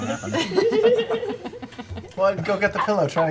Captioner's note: laughter